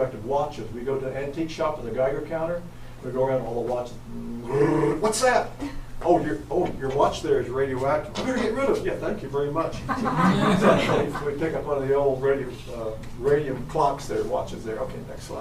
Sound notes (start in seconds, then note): 2.2 geiger Counter goes off beeping; 9.7 audience chuckles